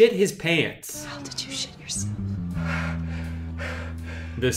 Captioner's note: whispering; breathes heavily